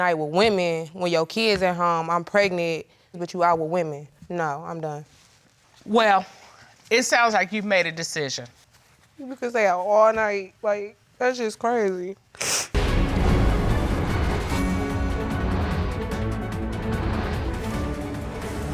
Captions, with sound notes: You literally stayed out all night with women when your kids at home and I'm pregnant. But you out with women. No, I'm done. Well, It sounds like you've made a decision. He would stay out all night, like, that's just crazy. (SNIFFS)